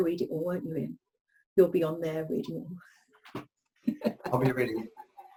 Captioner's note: speaker laughs